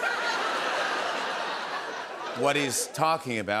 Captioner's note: laughter